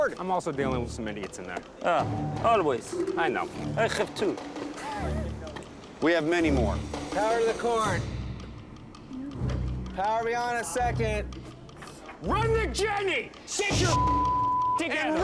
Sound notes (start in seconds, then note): 4.3 laughs